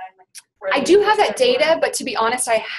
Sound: voiceover

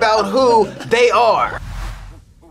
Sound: beep

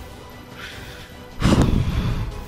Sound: breathes

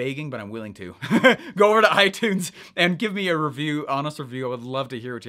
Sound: laughing

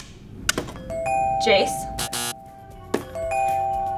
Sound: upbeat music; clock ticking; bell dinging

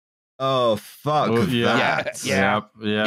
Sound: laughs

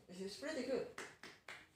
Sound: clap clap

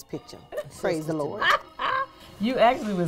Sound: laughs

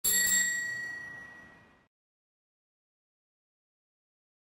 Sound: bell ringing

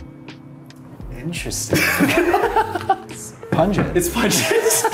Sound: laughing

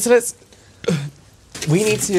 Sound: manly Burp

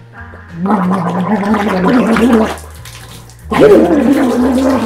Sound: bubbles

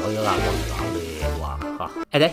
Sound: grumbling

